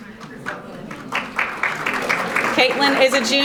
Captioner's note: audience applauding